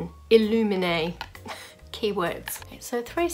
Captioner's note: laughs